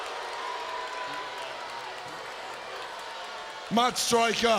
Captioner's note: crowd booing